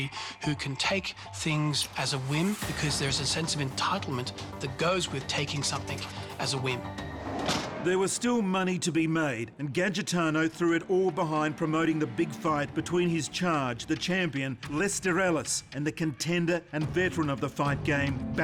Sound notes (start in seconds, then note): 7.4 car door slams